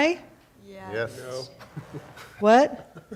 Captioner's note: laughing